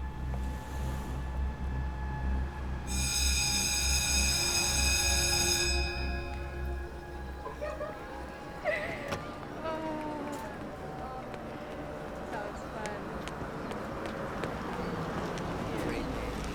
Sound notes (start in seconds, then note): 2.8 school bell ringing